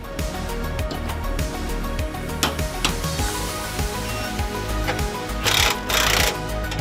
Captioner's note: upbeat lively music; tool whirring